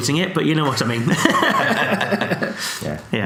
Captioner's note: laughs